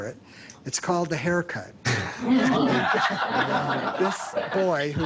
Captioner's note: laughter